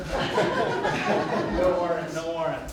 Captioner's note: laughter